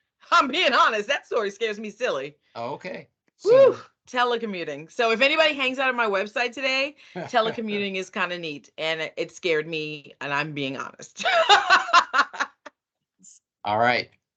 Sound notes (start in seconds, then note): 7.2 chuckling; 11.3 laughing